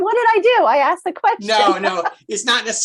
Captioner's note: laughs